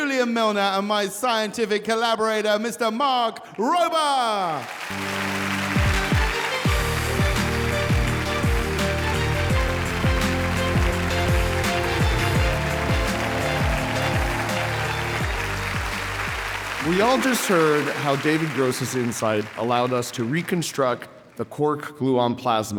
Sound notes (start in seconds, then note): 4.7 upbeat music; 5.9 audience cheering and applauding